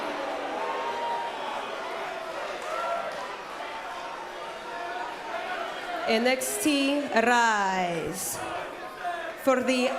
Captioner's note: cheers & boos